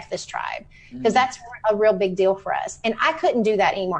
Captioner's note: microphone cut out